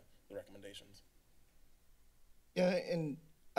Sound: silence

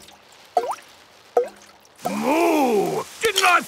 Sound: water dripping

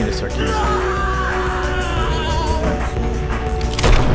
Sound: screaming continues

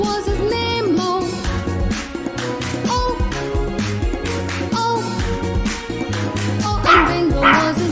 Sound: clap – Clap – Clap – Clap

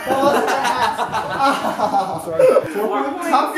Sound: laughter

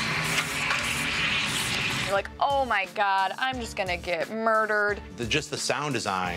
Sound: creepy sounds

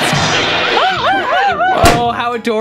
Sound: laughing

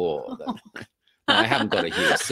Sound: laughing

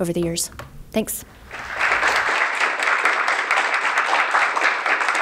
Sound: applause

